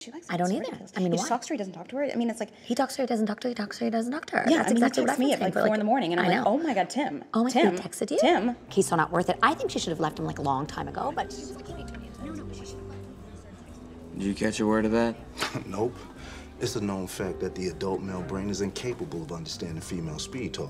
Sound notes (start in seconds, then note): 15.3 scoffing